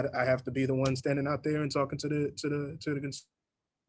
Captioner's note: microphone cuts out